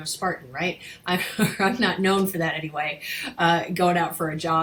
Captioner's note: chuckling